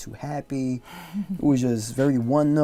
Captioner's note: laughs